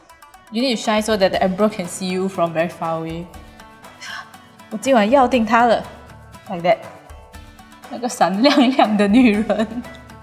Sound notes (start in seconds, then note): 4.0 gasp